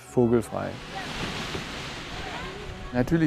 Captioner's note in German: Rascheln, vereinzelte Stimmen